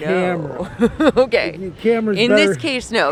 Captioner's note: laughs